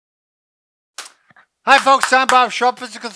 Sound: clapping

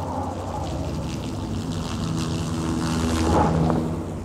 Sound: buzz of a helicopter

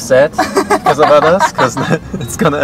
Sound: laughing

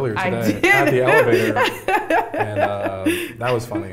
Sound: laughing

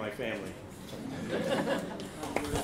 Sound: laughs; applause

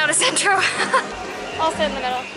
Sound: laughs

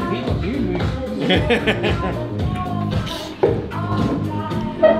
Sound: laughs

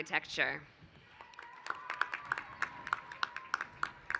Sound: applause

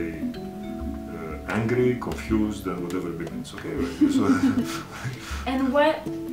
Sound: laughs

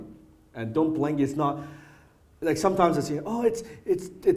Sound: hesitant

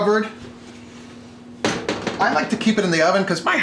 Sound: banging

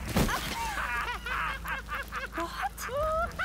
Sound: laughter

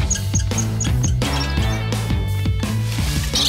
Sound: squeaking

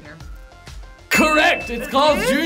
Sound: bell dings

